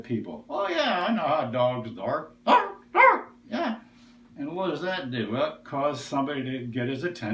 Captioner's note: bark, bark